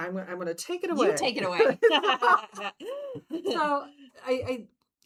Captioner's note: laughing